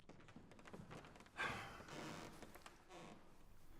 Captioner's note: sighs